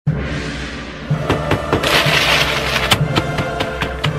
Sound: loud banging

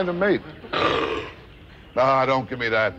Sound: seal barks

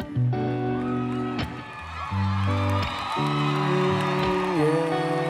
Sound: gentle music; audience cheering

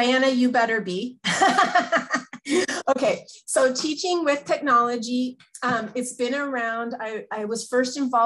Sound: laughs

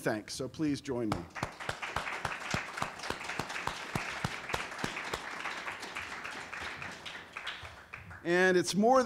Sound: applause

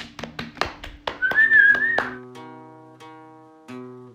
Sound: chuckles and claps; whistles; guitar strumming

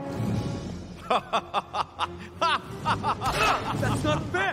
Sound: laughing

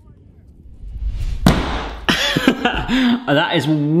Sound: dough banging

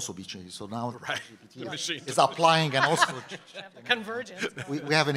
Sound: laugh

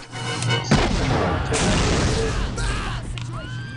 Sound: marching Band Screams

